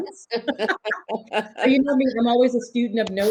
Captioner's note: participants laugh